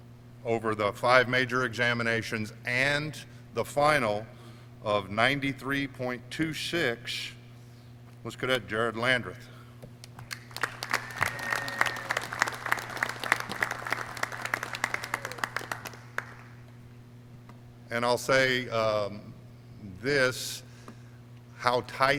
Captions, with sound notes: over the five major examinations and the final, of 93.26 was Cadet Jared Landreth. (clapping) And I'll say this, how tight the race was